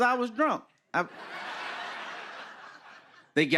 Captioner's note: laughter